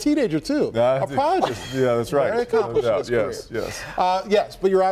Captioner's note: laughter